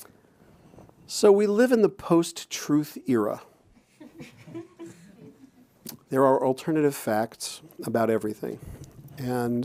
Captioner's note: chuckles